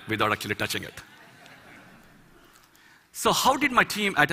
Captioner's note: Laughter